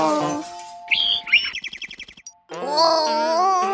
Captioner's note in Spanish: Sonido de pajaro